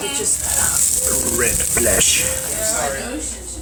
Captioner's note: in an intense voice